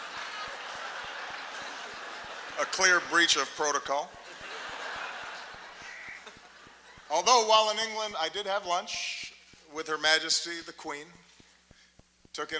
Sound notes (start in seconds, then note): 0.1 laughter